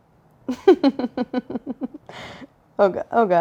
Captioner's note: laughs